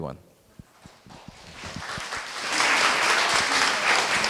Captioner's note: applause